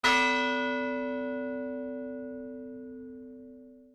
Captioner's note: bell tolling